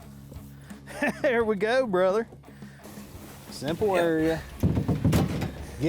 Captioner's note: laughing